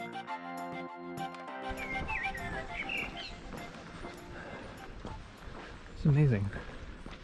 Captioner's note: birds chirping